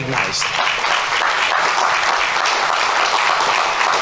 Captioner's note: audience applauding